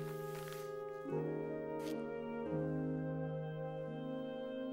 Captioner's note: sniffs